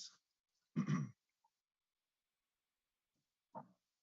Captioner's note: clears throat